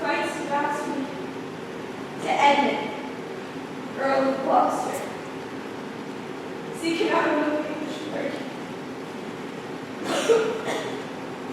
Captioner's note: coughs weakly